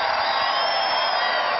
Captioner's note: cheering